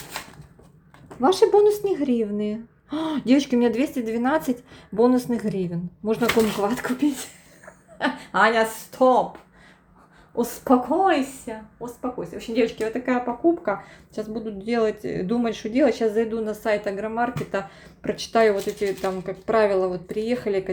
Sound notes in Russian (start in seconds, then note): 7.2 смех